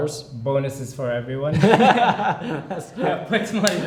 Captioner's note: they laugh